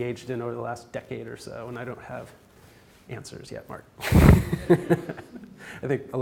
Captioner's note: laugh